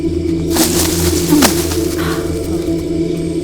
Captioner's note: grunting